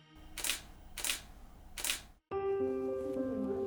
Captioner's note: camera shutter clicking; gentle music